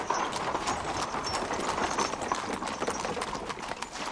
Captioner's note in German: Hufschlag, Kutsche nähert sich